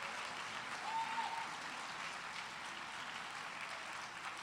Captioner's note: cheers and applause